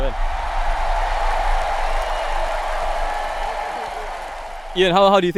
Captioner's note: imaginary crowd cheering